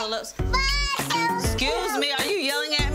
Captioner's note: chattering